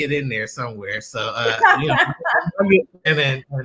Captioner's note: laughter